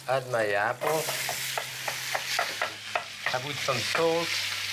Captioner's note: sizzling